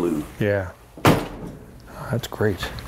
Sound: door slamming

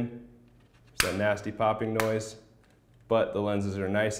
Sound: popping

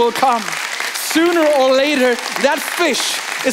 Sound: congregation applauding

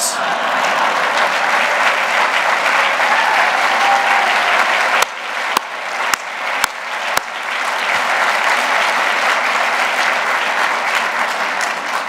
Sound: applause

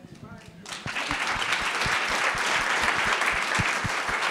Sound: audience clapping

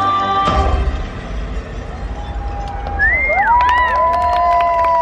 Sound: crowd cheering

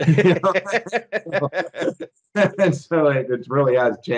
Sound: both laughing

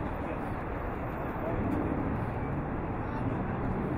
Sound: none

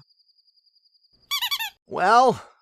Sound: squeaky toy sound

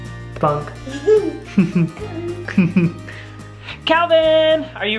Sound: laughing

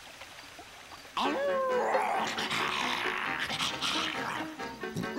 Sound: werewolf howling

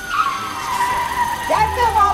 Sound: car screeches

